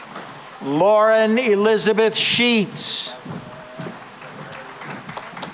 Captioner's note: applause